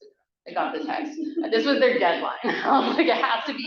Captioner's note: laughing